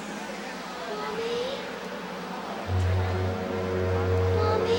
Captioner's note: voiceover